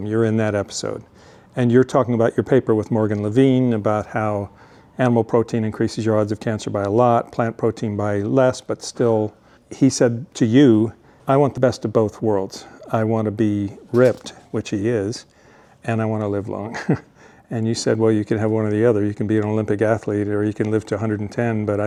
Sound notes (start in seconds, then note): 16.7 chuckles